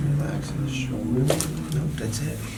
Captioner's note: back cracking